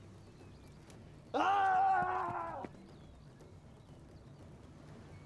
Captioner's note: man screams